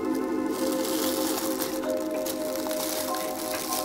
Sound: hearts pounding

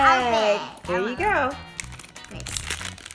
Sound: voiceover

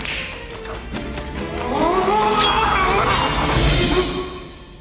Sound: yells

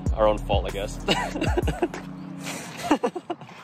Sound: laughs

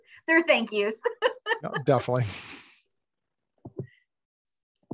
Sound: laughing

